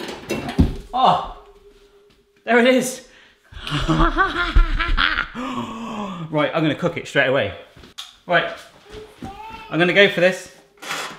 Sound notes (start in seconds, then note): 3.6 laughing; 5.3 gasps